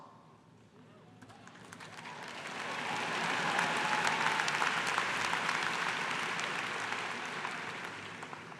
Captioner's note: cheers and applause